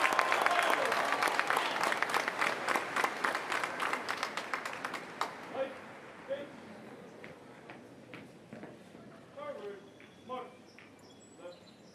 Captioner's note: applause